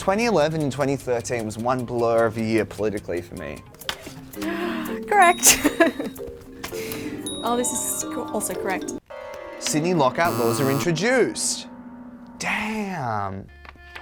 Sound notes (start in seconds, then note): 5.9 laughs; 6.8 bell ringing; 10.2 buzzing